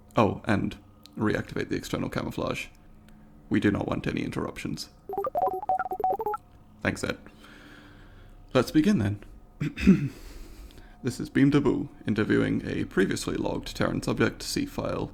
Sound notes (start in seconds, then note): 5.1 Ed beeps affirmatively; 9.6 clears throat